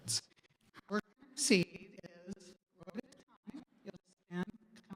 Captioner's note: audio cuts out